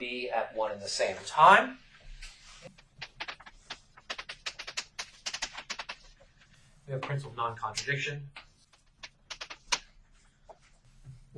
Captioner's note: writing on chalkboard sounds